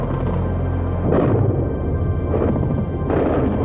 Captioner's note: explosions